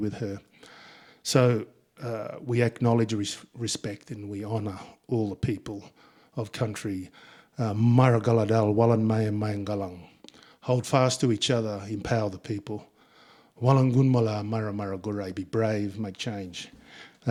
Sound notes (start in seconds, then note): 7.5 speaking in Ngunnawal; 13.5 speaking in Ngunnawal; 17.0 speaking in Ngunnawal